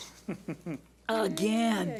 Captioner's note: chuckling